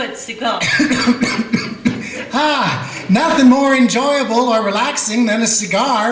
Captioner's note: coughs